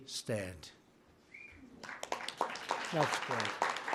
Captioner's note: applause